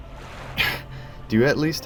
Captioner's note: sighs